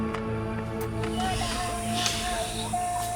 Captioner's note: baby crying